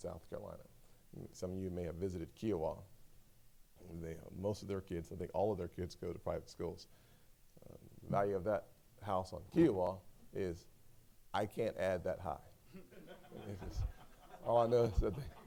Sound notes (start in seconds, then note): 12.6 laughter